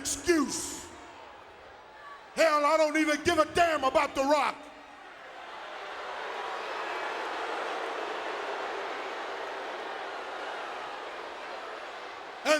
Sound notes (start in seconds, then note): 4.6 audience booing